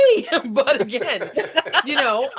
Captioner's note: laughing